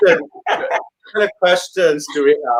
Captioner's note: laughing